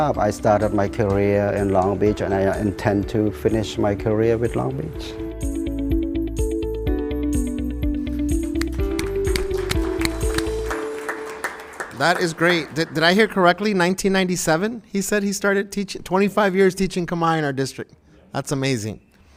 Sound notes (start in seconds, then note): 5.9 bright music; 7.9 bright music ends; 8.6 applause